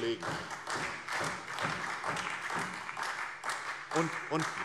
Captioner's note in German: Beifall SPD